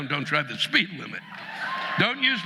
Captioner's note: audience laughing